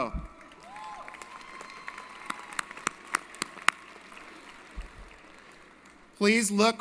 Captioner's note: applause & Cheering